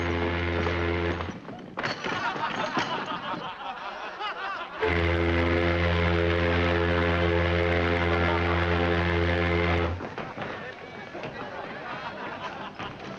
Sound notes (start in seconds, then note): 2.0 men laughing; 12.3 festive music